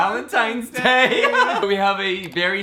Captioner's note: laughing